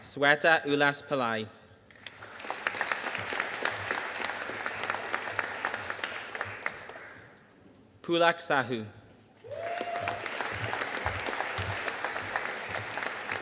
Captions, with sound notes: Shweta Ullas Pillai. (AUDIENCE APPLAUDING) Pulak Sahu. (AUDIENCE CHEERING AND APPLAUDING)